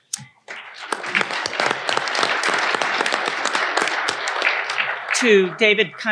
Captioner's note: audience applauding